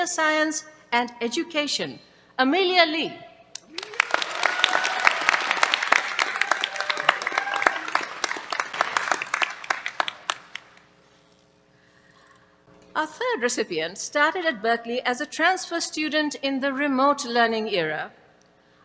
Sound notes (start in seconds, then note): 3.6 applause